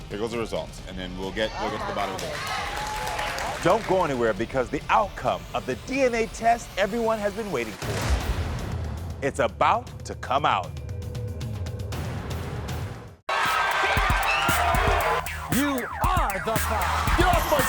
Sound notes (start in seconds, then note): 1.6 audience applauding; 11.2 dramatic music